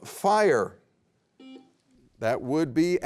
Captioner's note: beep